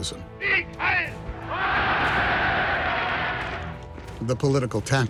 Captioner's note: spectators cheering